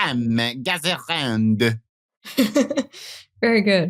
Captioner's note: over the top French accent